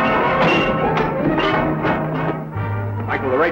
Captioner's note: none